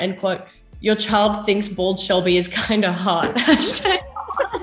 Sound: laughs

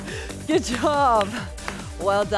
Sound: laughing; hands clapping

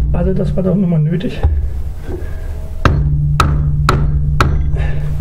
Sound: hammer in with sledgehammer

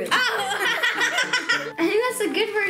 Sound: laughs

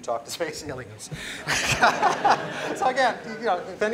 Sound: laughter

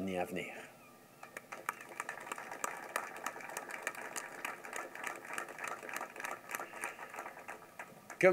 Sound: applause

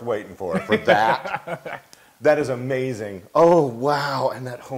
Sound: laugh

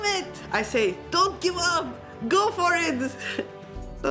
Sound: yelling in foreign language

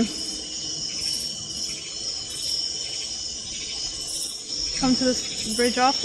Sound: crickets chirping

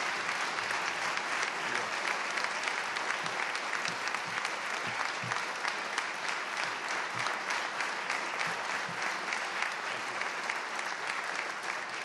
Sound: applause

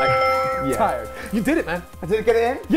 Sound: bells chiming

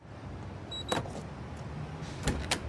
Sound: alarm beeps

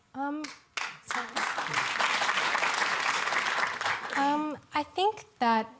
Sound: applause

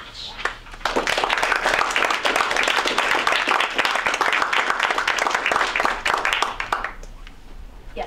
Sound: audience Clapping

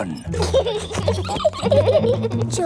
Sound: both giggling

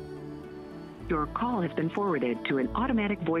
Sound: Robotic voice

